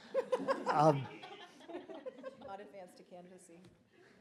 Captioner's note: audience laughs